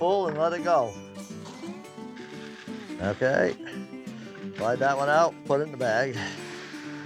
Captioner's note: grain falling